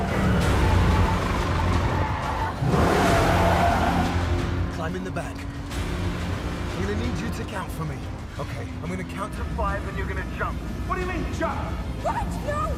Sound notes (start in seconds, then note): 1.9 tires screech